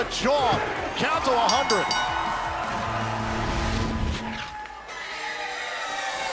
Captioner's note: bell ringing